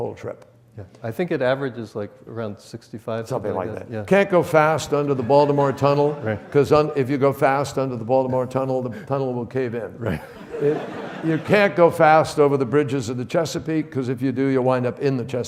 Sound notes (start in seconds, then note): 10.1 audience laughs